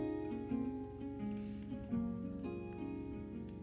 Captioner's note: soft music; sizzling